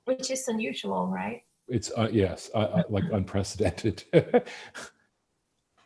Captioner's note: laughs